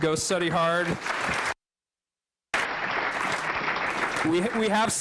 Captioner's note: applause